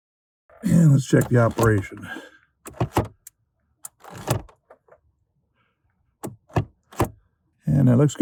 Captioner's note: lever moving sounds